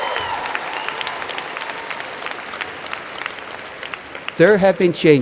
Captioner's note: cheers and Applause